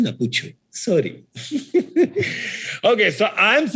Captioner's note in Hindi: हँसते हुए